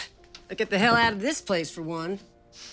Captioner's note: scoffs